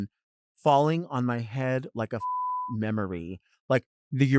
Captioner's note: beep